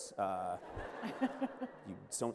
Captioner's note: laughter